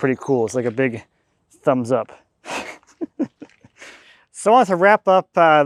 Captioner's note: laughs